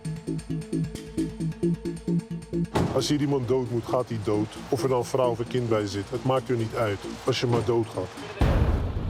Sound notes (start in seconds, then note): 3.0 Dutch spoken audio